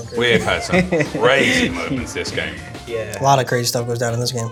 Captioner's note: laughing